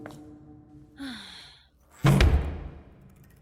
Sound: sighs

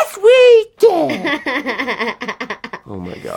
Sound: she laughs

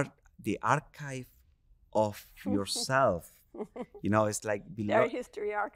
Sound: chuckling

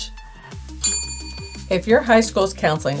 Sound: bell rings

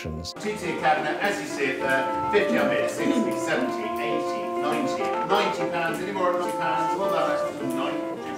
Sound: sounds of auctioning

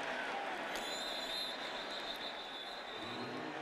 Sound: whistle

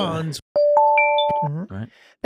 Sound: digital chiming

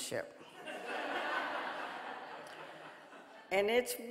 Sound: audience laughing

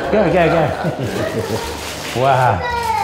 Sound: people laughing and paper tearing

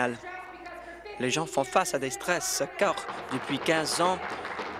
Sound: applause

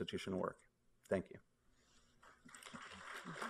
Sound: applause

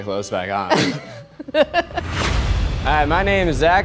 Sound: laughing

